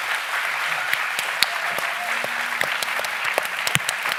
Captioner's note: applauding